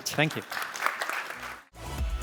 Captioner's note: applause